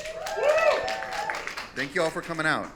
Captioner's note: audience cheering